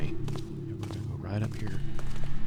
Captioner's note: whispers